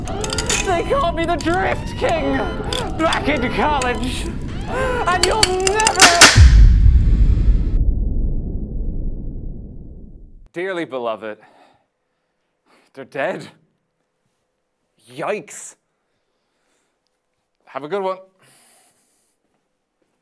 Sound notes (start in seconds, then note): 5.1 cracking sound; 6.3 low rumble